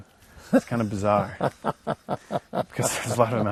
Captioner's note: laughs